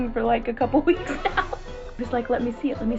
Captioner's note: laughing